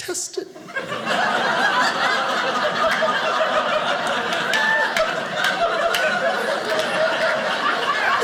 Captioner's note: audience laughing